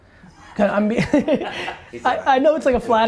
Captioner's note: laughter